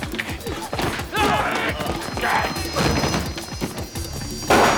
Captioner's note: groaning